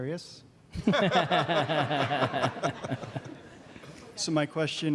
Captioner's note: laughter